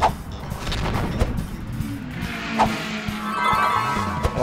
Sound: funk music; race car vrooms

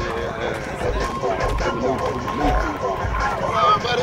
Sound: combined chatter

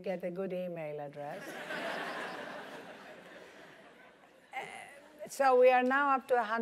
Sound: laugh

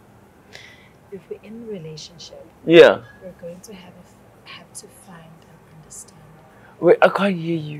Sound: whispers

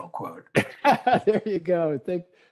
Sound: laughter

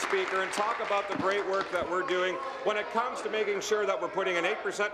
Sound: applause

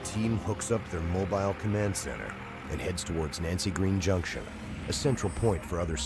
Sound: voiceover

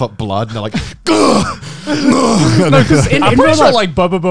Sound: groaning

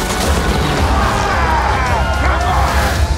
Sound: men cheering

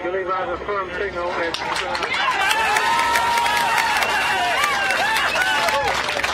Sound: all cheering and applauding

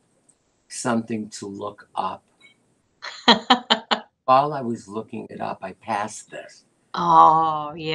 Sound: laughter

